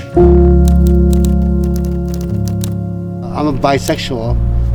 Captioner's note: typewriter typing